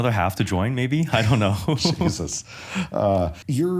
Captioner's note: chuckles